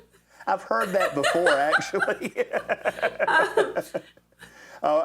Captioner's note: laughs